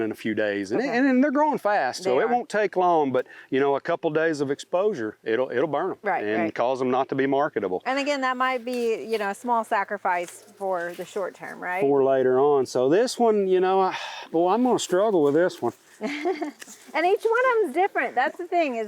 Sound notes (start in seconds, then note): 13.9 sighs; 16.0 laughs